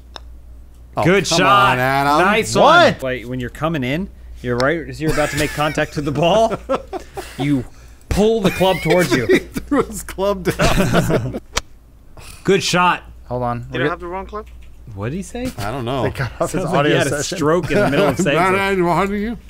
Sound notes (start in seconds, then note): 5.1 laughing; 11.0 laughing